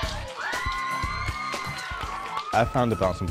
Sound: all chanting

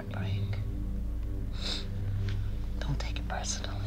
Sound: sniffles

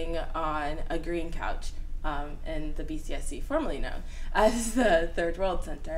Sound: laughs

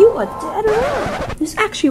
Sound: record scratch

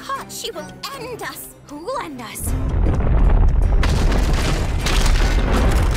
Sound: rumbling

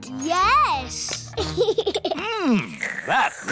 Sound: giggles

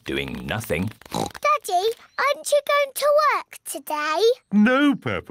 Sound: oinks

